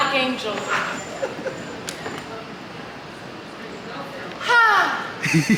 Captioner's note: laughing